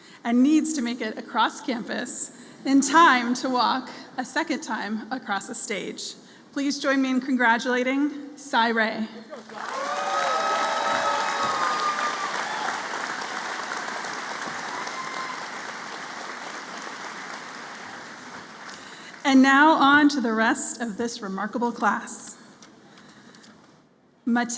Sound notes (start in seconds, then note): 9.0 applause